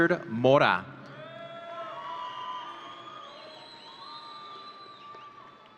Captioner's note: audience cheering